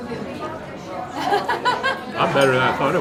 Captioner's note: laughs